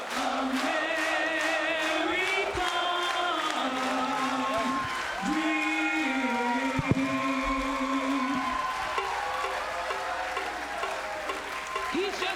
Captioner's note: crowd cheering